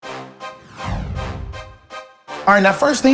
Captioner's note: dramatic music; logo swishes in